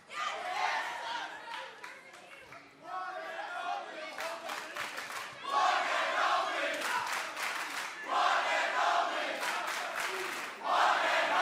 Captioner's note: crowd cheering